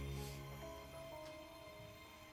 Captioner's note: slow dramatic music; sniffs